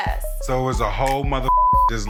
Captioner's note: beep